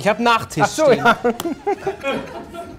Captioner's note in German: Lachen